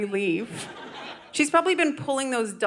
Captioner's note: audience laughing